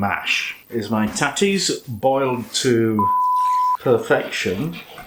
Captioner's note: beep